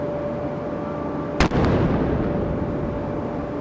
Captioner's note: cannon firing